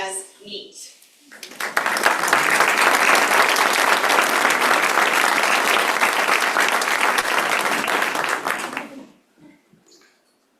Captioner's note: applause